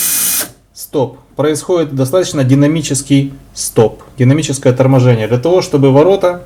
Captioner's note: motor dynamic braking